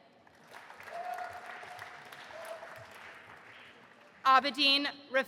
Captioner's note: audience applauding